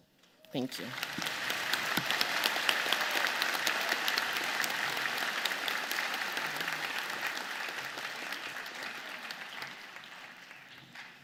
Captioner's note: applause